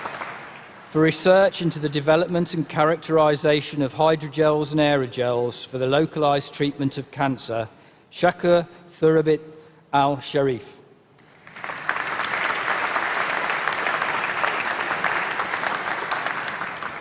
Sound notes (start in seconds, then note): 11.2 applause